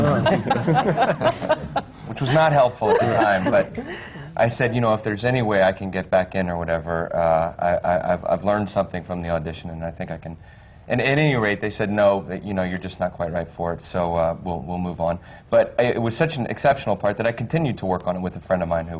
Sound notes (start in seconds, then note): 0.0 laughter